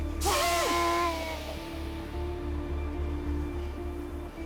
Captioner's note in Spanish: Quejidos